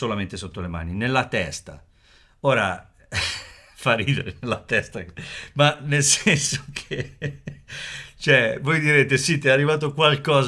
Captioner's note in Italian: risate